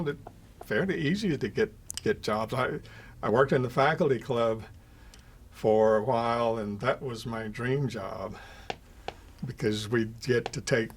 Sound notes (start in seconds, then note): 10.3 soft tapping